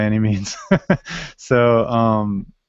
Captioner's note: laughs